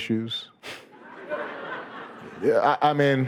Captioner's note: audience laughing